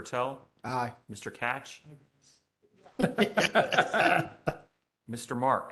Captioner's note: laughter